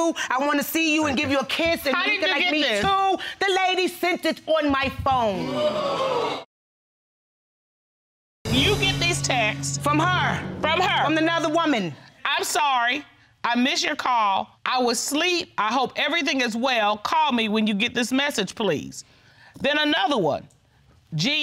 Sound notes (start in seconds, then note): 5.4 audience exclaiming; 12.3 reading